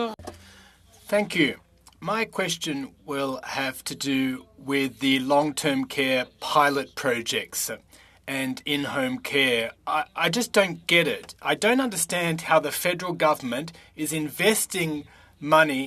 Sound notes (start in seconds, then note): 3.2 speaking French